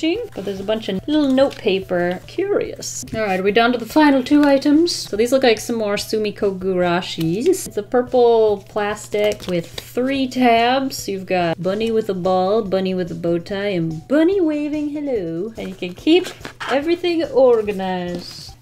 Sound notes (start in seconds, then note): none